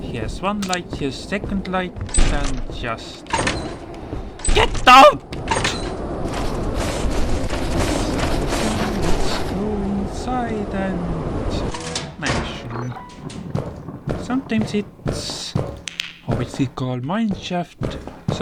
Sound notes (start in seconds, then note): 8.0 humming